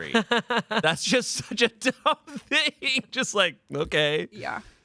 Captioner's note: laughs